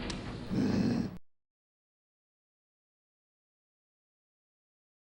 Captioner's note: Groden grunts